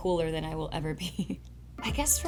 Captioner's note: giggles